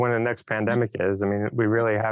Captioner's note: chuckles